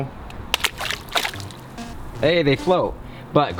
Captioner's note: water splashing